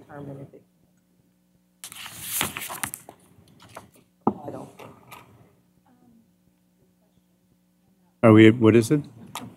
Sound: audio drops

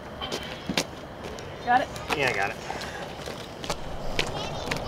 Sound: children talking

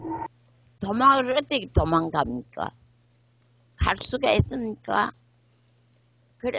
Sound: speaks in foreign language

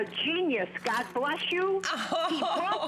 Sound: laughter

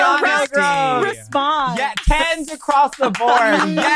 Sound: hosts cheering

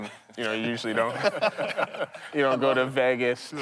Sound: everyone laughing

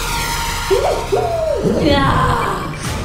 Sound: dramatic music plays; yelps

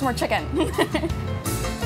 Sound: laughs

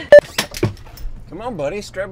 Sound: squeaky Door Opens

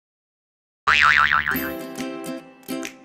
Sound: boing

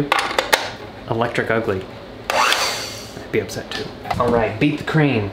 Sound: mixer whizzing

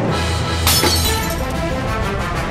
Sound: phone shatters

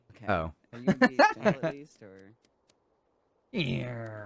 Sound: laughing

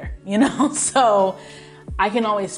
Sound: chuckles

